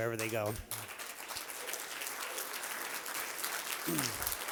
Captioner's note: applause